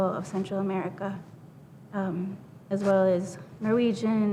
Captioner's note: none